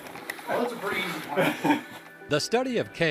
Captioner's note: laughter